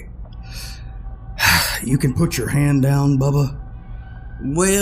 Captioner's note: another audible sigh